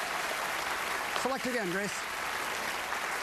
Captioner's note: applause